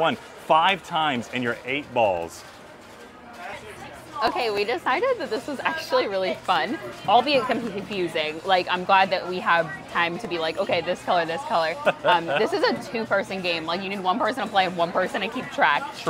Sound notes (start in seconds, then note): 11.8 laughing